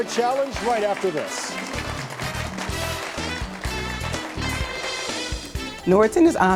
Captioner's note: audience clapping; upbeat music